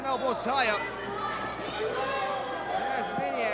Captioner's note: crowd chatter